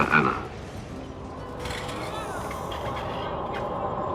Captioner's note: creaking and groaning